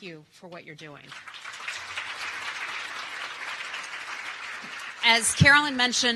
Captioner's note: applause